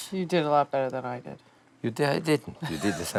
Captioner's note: laughs